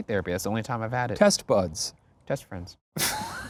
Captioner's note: laughs